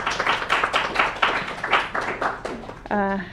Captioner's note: applause